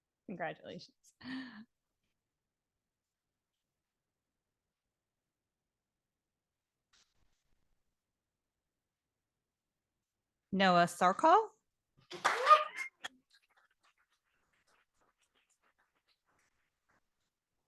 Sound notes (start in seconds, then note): 12.1 audience applauding